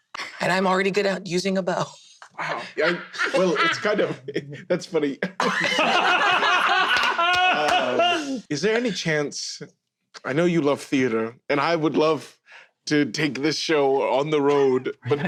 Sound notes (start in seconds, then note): 1.7 laughs; 4.1 chuckles; 5.2 everyone laughs but laughs REAL loud